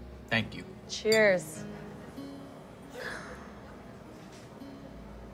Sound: glasses clink

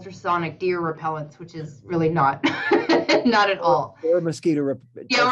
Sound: laughs

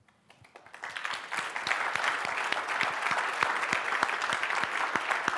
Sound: audiences clapping

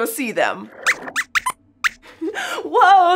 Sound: squeaks squeaks

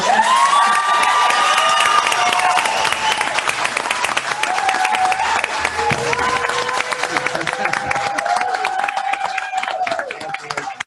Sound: applause

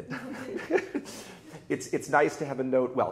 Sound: both laughing

